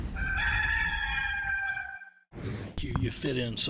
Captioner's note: rooster crowing